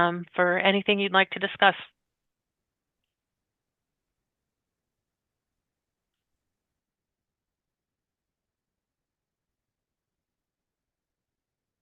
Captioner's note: pause